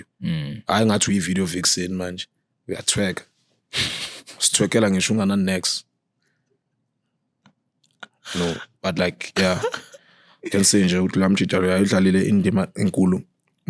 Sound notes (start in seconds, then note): 7.0 laughing